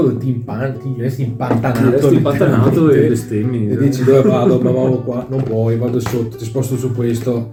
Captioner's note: laughs